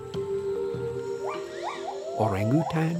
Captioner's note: monkey calls